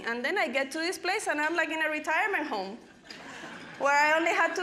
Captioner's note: audience laughing